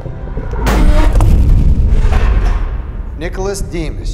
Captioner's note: dramatic booming